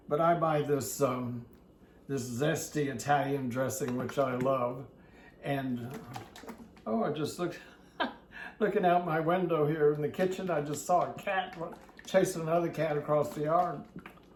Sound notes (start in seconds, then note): 5.8 dressing plops; 7.6 chuckles